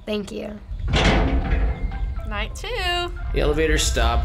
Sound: metal clank

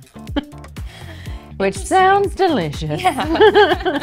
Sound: laughing

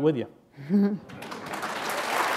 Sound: applause

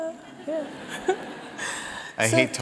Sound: audience laughs

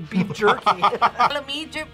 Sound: both laugh

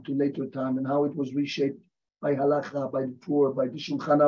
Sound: hebrew

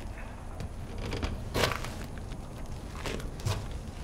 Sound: wood creaking

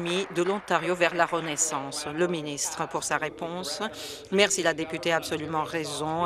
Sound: applause

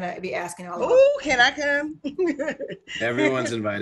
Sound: laughs

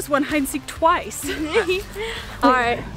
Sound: laughs

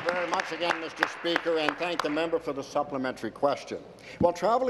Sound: applause

